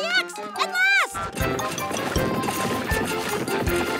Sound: digging

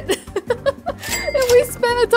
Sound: laughs

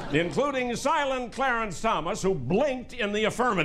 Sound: laughter

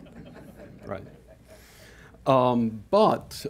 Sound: audience chuckling

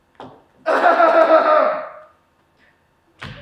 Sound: he clear his throat at MYERS

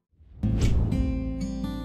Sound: air swishes

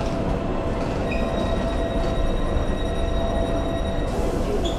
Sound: alarm beeping

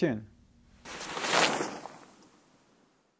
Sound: air whooshing

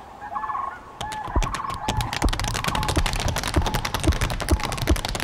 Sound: rhythmic beating

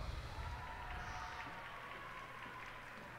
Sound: cheers and applause

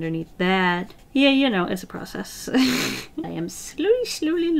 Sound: laughs

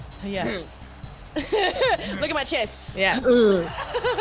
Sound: laugh

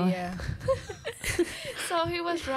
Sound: laughs

